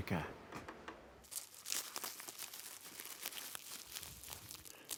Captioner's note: plastic crinkling